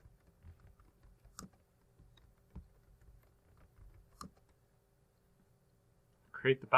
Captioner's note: typing